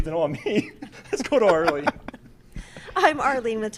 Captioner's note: laughs